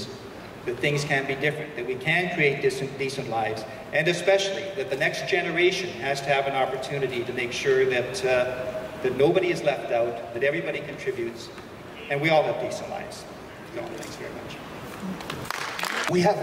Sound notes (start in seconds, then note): 15.3 crowd applause